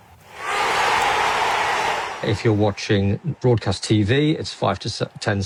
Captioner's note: crowd cheering